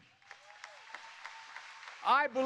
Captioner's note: applause